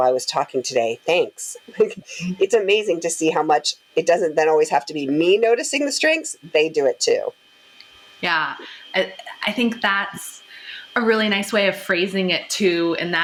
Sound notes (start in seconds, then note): 1.8 laughing warmly